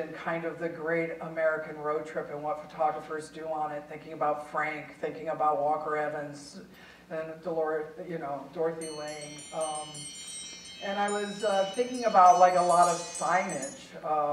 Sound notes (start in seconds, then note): 9.2 cell phone ringing